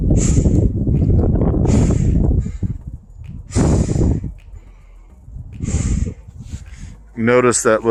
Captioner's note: breathing in and out